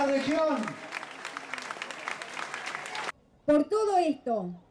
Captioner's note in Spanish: aplausos